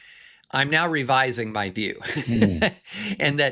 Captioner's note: chuckles